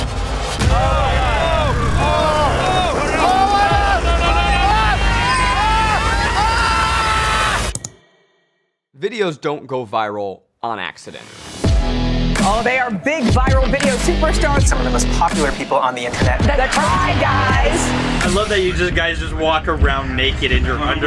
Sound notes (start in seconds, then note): 0.0 suspenseful music; 5.4 yelling